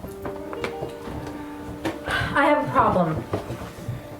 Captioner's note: sigh